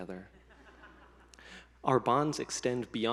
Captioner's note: some attendees laughing